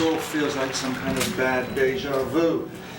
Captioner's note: audience claps